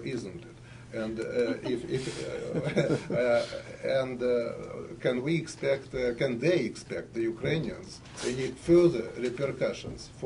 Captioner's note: laughter